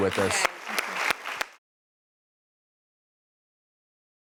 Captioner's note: audience applause